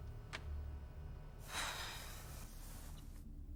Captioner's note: Alice sighs